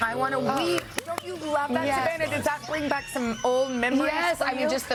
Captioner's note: screaming